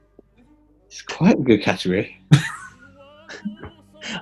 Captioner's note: laughing